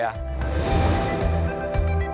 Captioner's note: upbeat music; air whooshing